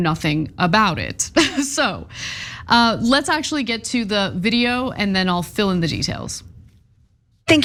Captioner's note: laugh